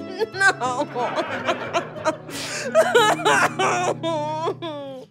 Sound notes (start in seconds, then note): 2.1 sobbing